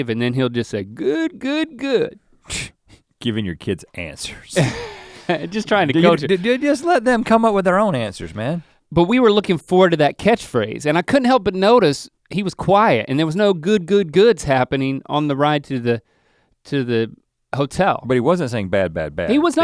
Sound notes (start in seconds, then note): 4.2 scoffs; 4.6 chuckles